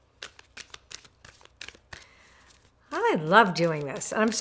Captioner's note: cards shuffle